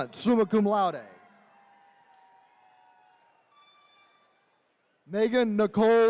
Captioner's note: attendees cheering